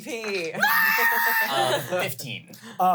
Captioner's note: shrieks